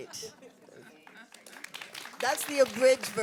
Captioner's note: audience applauds